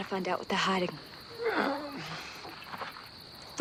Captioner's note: moaning